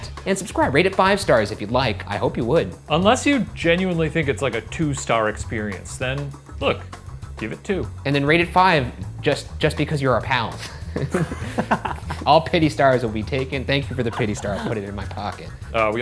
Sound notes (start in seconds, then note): 10.6 chuckling